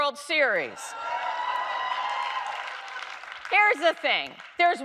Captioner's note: audience cheering